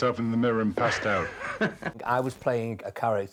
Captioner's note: laughing